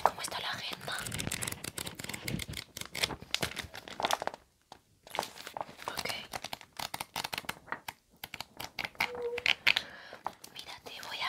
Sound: sound of papers

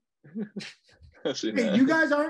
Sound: everyone laughing lightly

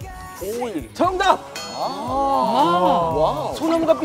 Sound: kekeke

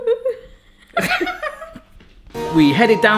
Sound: laughing

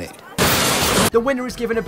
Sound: crashing noises

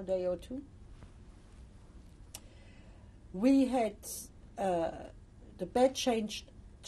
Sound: pauses for 3 seconds

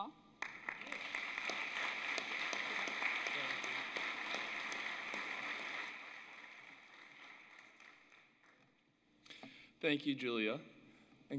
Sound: applause

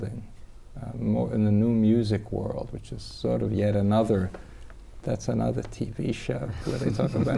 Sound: laughter

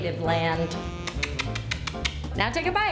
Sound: makes kissing noises

